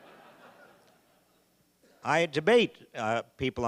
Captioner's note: audience laughing